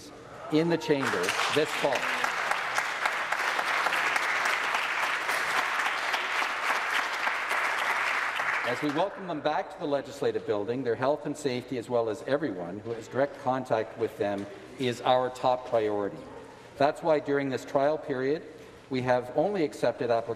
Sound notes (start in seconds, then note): 5.5 applause